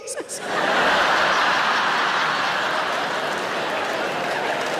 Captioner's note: audience laughing